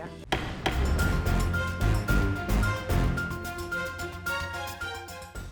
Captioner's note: dramatic music; gavel bangs